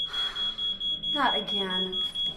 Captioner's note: Carol sighs